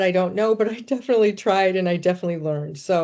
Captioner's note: chuckling